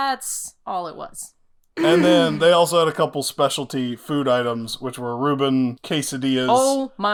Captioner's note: cough